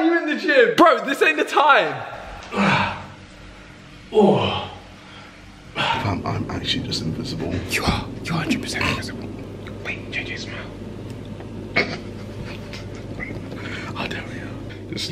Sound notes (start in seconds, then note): 2.0 groaning and sighing; 11.7 laughter